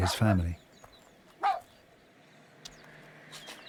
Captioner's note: barks